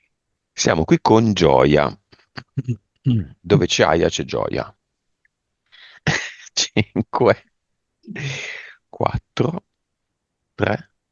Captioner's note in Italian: risate